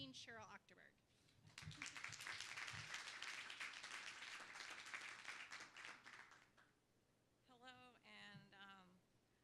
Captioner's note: applause